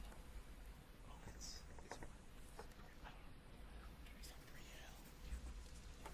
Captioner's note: Edmonson teammates whisper